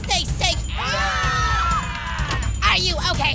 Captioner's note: screaming